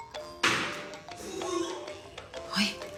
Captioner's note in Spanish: Sonido al hacer arcadas